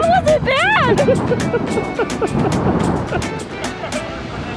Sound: laughing

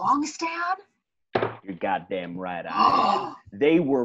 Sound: scandalized gasp

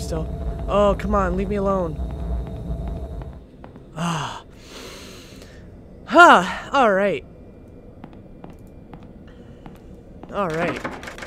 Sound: deep breath

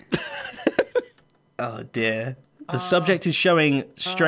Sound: normal voice

